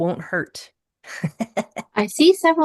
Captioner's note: chuckles